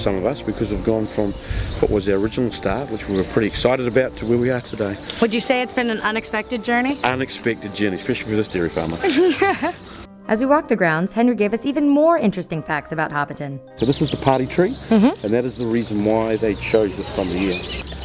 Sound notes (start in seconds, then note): 9.0 laughs